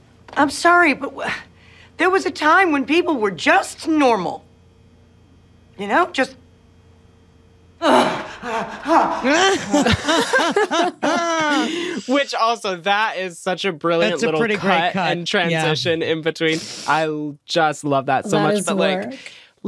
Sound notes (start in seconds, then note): 7.8 sighs angrily; 8.2 all podcast panel laugh